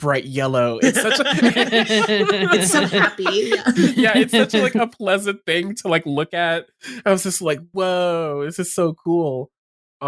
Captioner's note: laughter